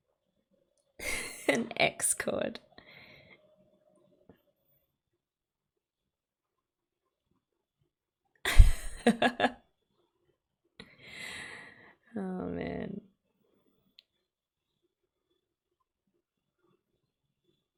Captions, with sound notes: An X chord. [laughs] Oh man.